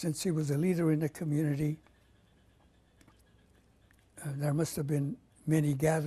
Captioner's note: pauses for 3 seconds